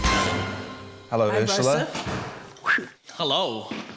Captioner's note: whistles sharply